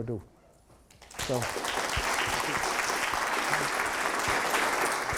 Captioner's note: attendees applauding